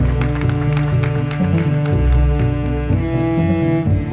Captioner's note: applauding